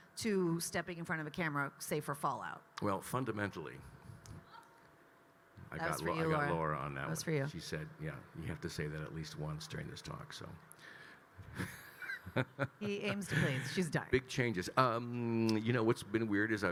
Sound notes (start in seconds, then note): 11.4 Kyle laughing